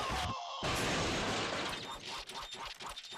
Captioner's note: crashing